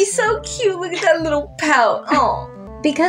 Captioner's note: chuckle